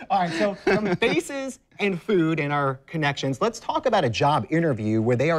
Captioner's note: laughs